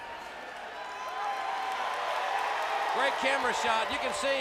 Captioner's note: crowd cheering